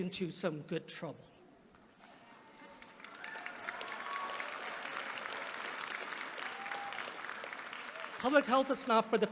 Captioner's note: applause